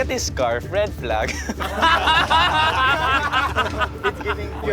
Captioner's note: laughter